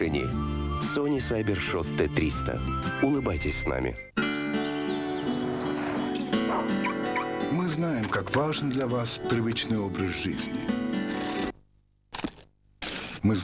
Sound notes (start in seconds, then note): 4.1 automotive beep; 4.1 calm music; 10.5 rustling